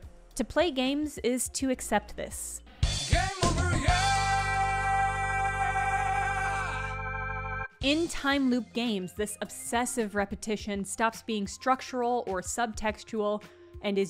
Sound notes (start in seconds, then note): 3.2 somewhat robotic voice sing/yelling